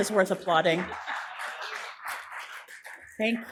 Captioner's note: applause